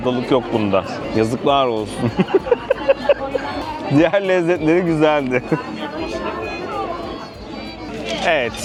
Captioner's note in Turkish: kahkaha